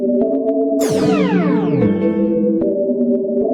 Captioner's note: teleportation sound